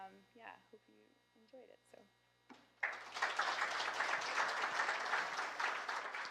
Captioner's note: applause